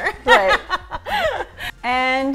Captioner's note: laughing